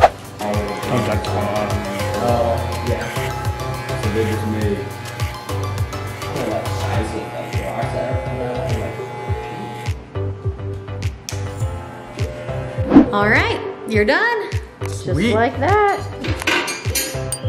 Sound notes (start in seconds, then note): 0.6 trimmer buzzing; 5.7 trimmer buzzing; 10.4 upbeat music